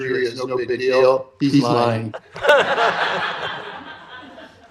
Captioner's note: laughter